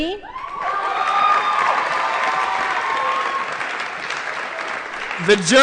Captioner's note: applause & Cheering